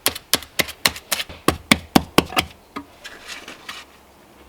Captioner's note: tapping